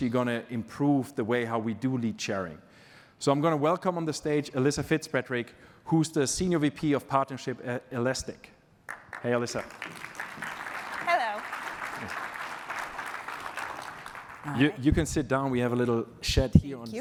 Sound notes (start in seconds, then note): 8.8 applause